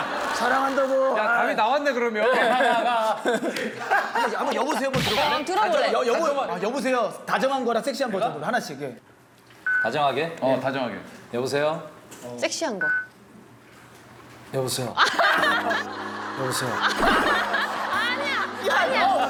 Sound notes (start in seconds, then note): 13.1 Seok Jin's sexy voice